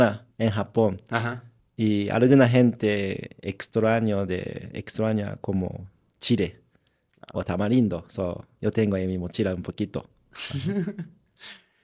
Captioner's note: laughter